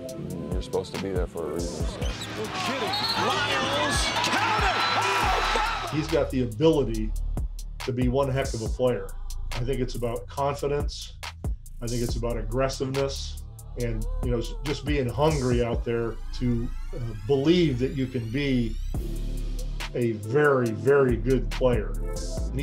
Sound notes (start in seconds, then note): 5.1 crowd cheering